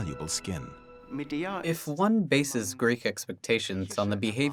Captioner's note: in German